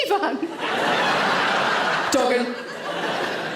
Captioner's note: audience laughs